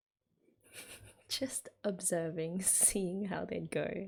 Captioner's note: laughs